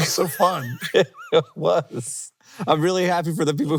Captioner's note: laughing